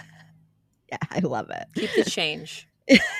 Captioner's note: laughing